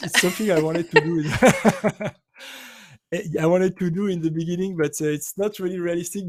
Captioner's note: laughs